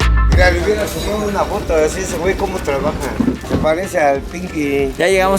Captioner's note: people chatting